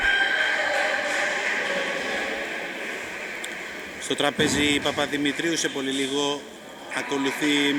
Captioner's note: applause